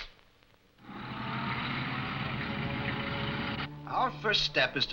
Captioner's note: traffic humming